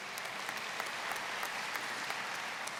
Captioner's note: applause